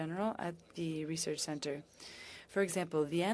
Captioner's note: speaking French